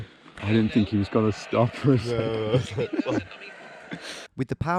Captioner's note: laughs